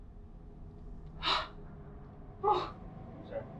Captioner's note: Sarah pants in pain